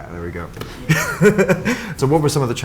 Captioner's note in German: lacht